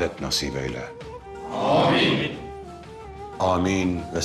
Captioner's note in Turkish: Hep bir ağızdan